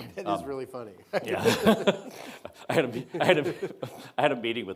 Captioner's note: Secretary Azar chuckling